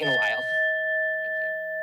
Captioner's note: bell rings